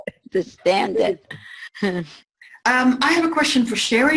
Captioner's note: laughs